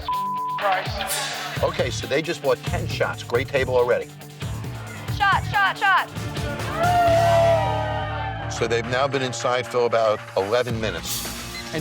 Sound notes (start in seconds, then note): 0.0 beep; 6.4 all cheer